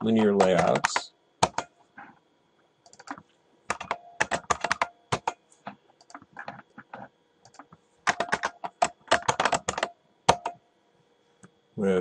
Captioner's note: typing